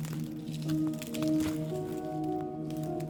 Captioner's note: rustles